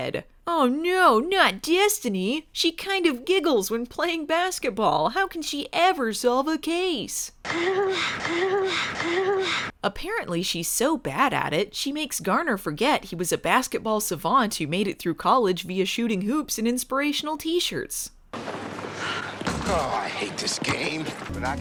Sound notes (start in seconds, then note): 7.5 giggles; 19.5 thunk